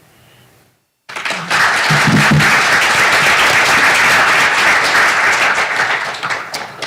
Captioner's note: applause